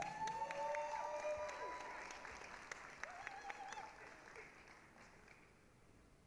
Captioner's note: applause, cheering